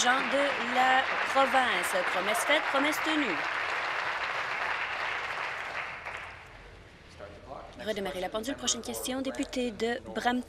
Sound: applause

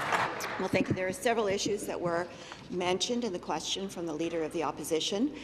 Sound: applause

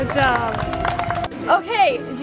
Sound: crowd clapping

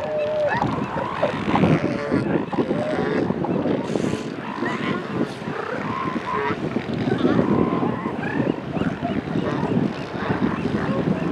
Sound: wind blowing against microphone

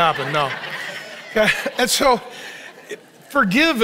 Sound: congregation laughing

